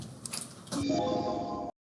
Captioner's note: computer chimes